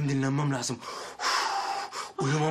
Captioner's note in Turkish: Nefes sesi